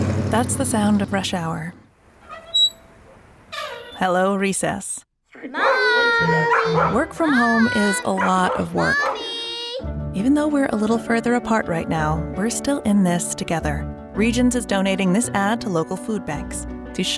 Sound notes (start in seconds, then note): 2.2 squeak; 5.5 barking